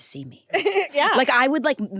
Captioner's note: laughs